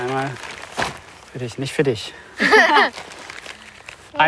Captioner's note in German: Auflachen